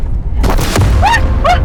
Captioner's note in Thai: เสียงยางระเบิด